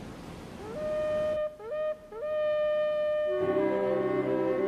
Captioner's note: horn sounds